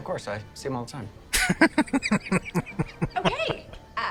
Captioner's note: laughing